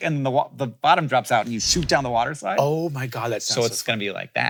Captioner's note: none